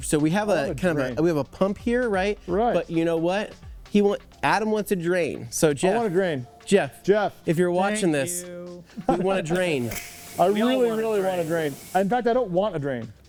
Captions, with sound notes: So we have a pump here, right? Right. But you know what? Adam wants to drain. So Jeff-- I want to drain. Jeff. Jeff. If you're watching this-- Thank you. We want to drain. [DRAIN WHISTLE] I really, really want to drain. In fact, I don't want to drain.